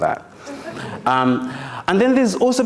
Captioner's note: audience chuckles